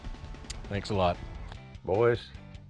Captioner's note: sucks teeth